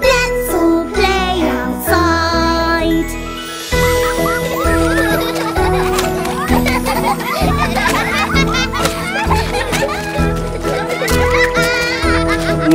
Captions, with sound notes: Let's all play outside. [LAUGHTER]